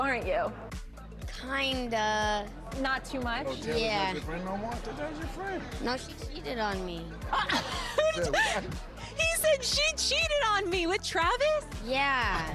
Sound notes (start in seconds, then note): 7.2 laughter